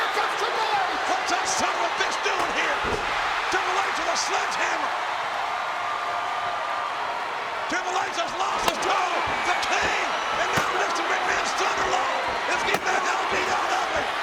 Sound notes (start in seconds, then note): 0.0 overlapping chatter; 5.2 audience cheering